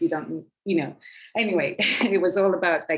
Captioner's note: woman chuckling